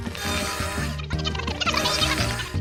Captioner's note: high-pitched babble